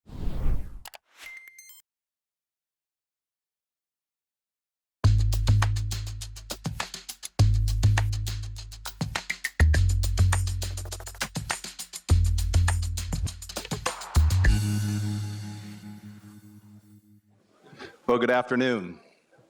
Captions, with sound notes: (mouse clicking) (notification beeping) (upbeat music) - Well, good afternoon.